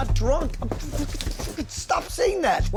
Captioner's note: spluttering